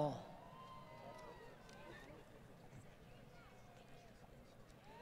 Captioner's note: crowd Cheering